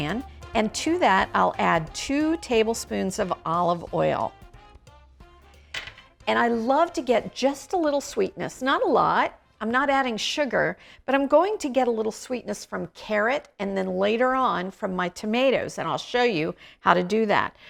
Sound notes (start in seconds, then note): 3.7 bright music; 5.7 glass bowl clanking